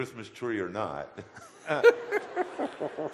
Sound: audience laughter

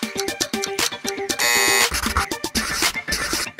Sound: buzzer

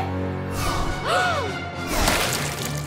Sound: gasps

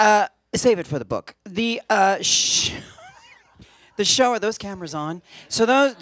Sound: laughs

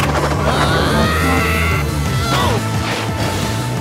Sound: bubbles screaming

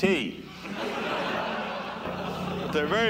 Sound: laughter

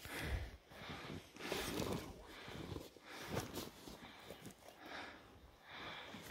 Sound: breathes heavily

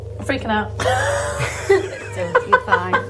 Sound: laughing

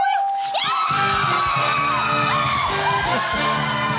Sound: screaming

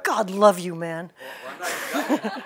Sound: laughter

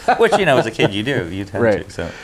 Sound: both laughing

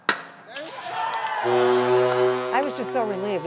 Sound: cheering; horn blaring

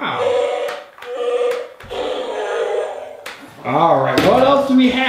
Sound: moaning

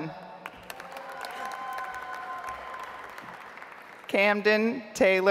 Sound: audience applauds

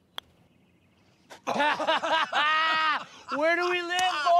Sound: laughter

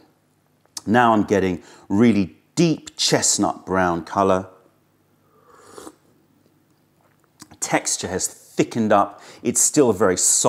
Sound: sips tea

